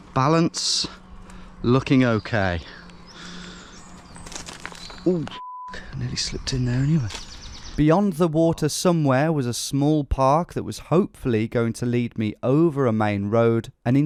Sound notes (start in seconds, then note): 4.8 beeping